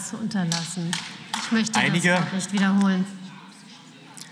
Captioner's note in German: Beifall